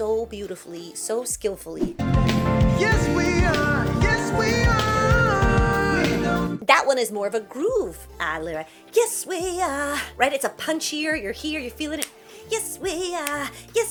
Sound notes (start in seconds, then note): 5.0 snaps fingers & grooves